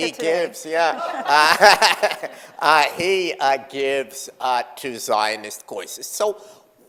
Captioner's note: chuckles